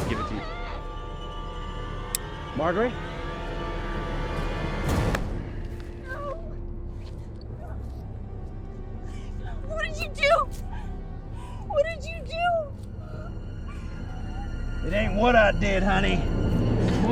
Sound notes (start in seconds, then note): 3.3 tense music; 4.9 dramatic bang